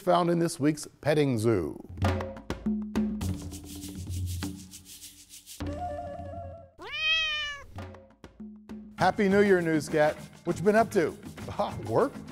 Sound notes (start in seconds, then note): 1.9 bongos drumming; 6.8 cat meowing